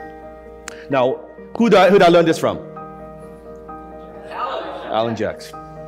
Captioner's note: crowd shouts